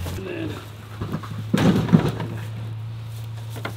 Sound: bang

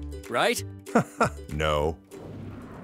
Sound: chuckles

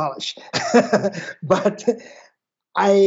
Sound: chuckles

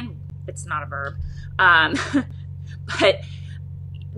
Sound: chuckles

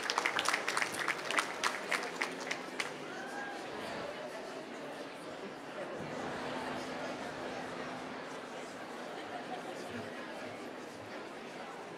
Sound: applause

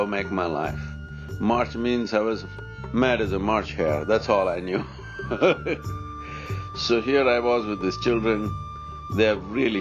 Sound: laughs

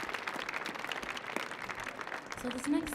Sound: audience cheering

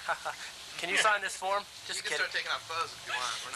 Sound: ha ha

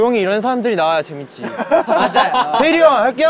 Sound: laughing

